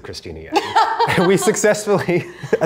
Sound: laughing

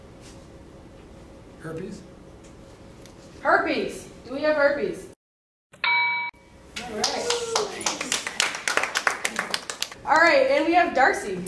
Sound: correct answer ding

